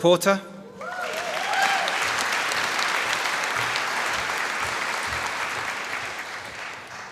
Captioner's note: applause